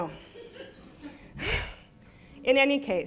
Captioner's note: laughing